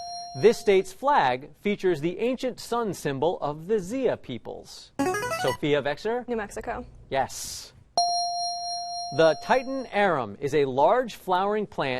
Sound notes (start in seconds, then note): 5.0 chiming